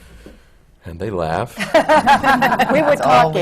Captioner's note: laughter